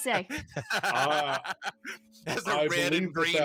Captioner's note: freely laughs